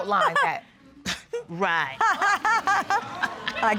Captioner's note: chuckles; all laugh